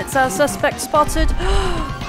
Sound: gasp

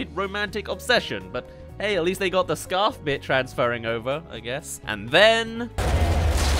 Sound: boom

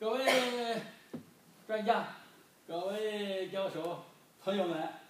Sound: speaking foreign language

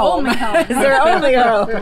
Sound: laughs

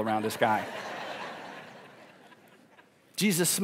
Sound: congregation laughing

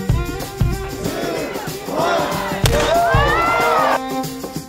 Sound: gunshot

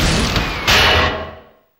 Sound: bang

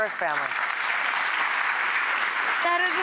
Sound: audience applause

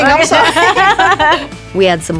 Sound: laughing

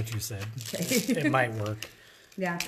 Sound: chuckles

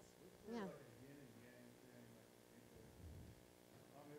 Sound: murmurs

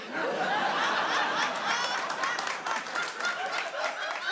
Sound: audience laughs and applauds

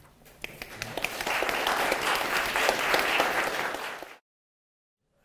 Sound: applause

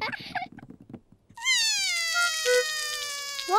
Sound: cries

